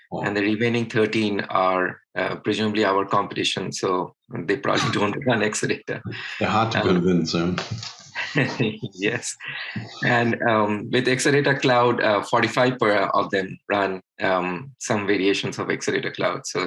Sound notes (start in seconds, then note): 9.0 laughs